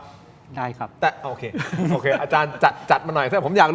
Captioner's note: laughter